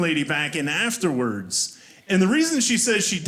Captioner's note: none